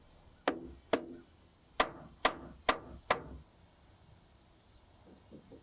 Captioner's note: hammer banging